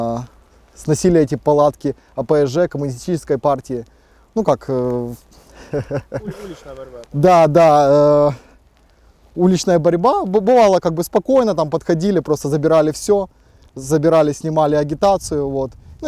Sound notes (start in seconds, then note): 5.5 laughs